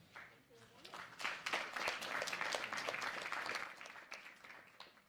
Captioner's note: applause